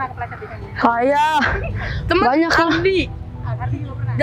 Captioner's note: shout